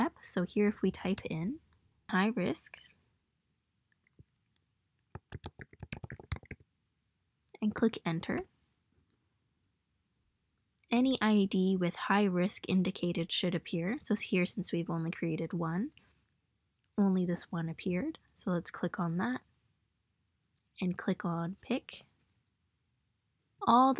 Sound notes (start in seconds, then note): 5.1 typing